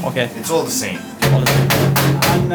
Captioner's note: knocking sound